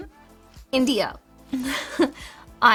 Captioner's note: giggles